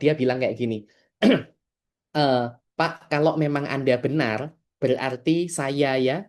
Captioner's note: berdehem